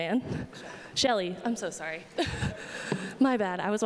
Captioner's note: laughs